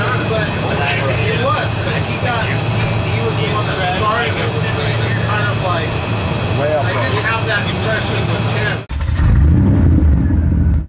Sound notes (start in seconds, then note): 1.2 airplane engine